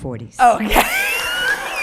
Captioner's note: laughs